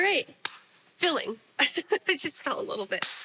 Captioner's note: laughs